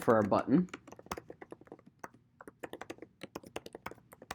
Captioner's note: keyboard clicking